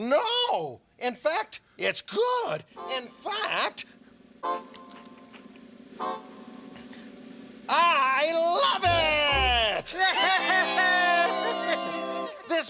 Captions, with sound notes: NO! IN FACT, IT'S GOOD! IN FACT, [munching] I LOVE IT! [all cheering]